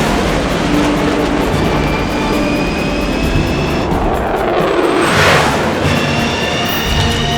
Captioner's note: rover engines loud - sounding almost like a rocket ship